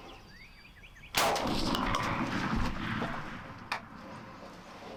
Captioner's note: gunshot sounds